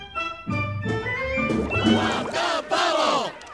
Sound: crowd chanting

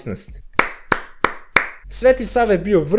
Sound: claps proudly

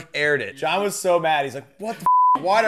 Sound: beep

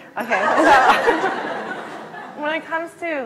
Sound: laugh

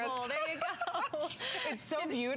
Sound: laughter

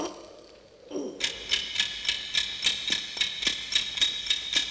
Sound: time bomb ticking

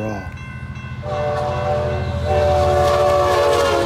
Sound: train whistles

